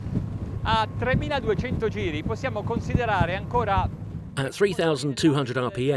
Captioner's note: speaking foreign language